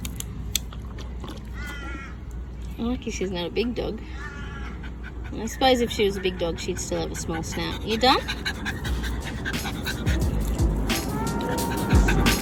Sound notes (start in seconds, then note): 0.5 more lapping; 4.4 dog pants; 8.7 dogs pants heavily